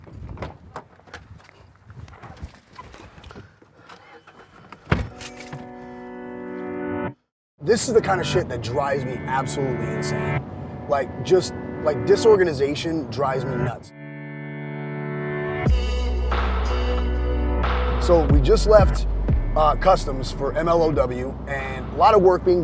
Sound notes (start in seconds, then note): 0.2 car door opening; 3.7 engine starting up; 3.8 car door closes; 3.8 keys jingling; 15.6 upbeat music playing